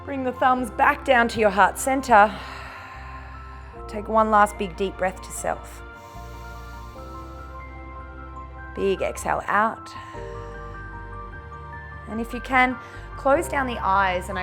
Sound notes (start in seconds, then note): 2.3 exhales; 5.9 inhales; 9.9 exhales